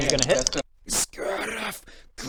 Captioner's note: szzcrrrf